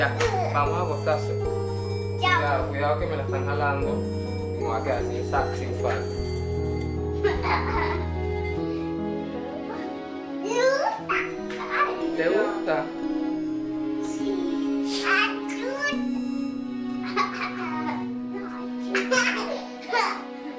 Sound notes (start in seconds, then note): 7.2 laughing; 17.2 kids continue playing